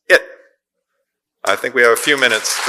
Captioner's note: audience applause